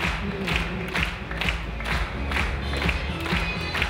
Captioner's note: clapping in unison